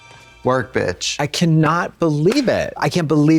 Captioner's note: Katya claps